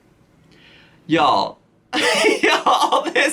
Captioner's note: laughs